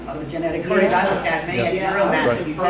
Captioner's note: chattering